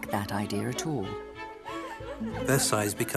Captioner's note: bright music; women giggling